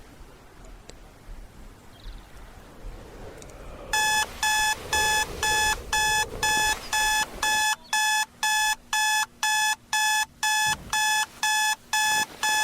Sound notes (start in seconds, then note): 3.9 alarm ringing